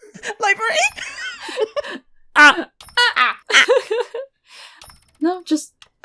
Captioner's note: squeaks; laughs